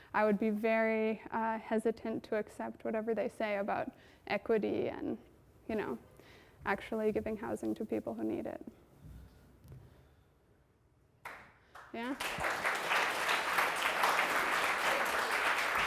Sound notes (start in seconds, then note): 11.7 audience applauding